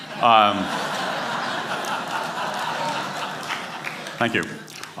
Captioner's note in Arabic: ضحك